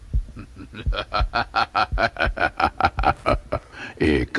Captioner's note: horseman laughing evilly